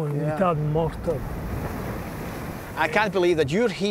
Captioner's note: waves crashing